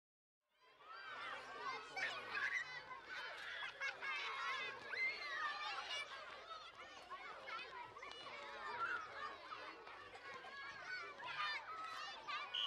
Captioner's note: sounds of children playing on the playground